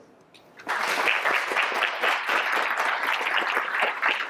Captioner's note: audience applauds